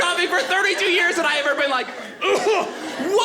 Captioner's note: coughing